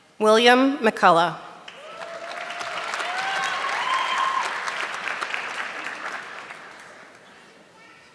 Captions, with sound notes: William McCullough. (audience clapping)